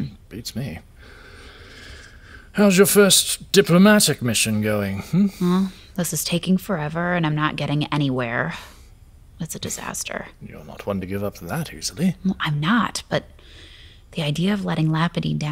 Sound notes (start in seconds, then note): 1.7 sighing